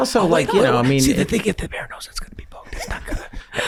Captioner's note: whispering